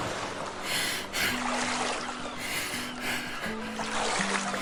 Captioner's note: heavy breathing, fast rowing